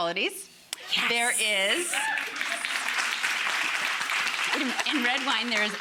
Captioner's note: audience clamors